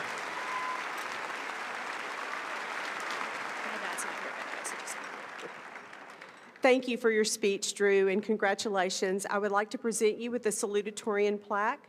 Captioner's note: applause